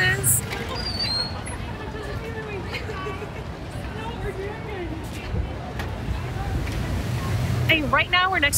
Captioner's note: doors click